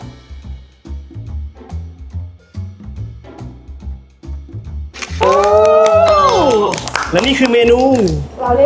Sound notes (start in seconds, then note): 5.0 applause